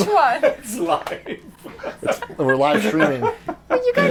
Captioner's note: laughs